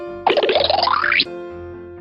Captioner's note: alternating high-pitched piano keys; cartoony blooping